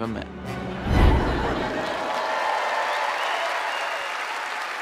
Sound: cheers and applause

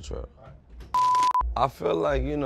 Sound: beep

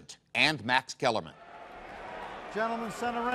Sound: crowd commotion

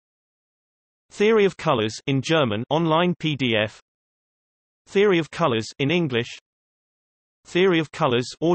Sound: in German

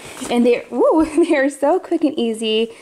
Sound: laughs

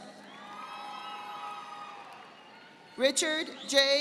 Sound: audience applauding

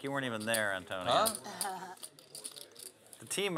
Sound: laugh

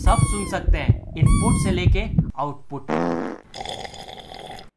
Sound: fart noise; slurping noise

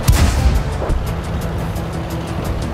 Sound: none

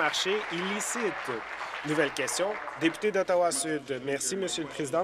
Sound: applause

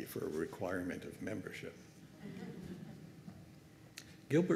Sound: laughter

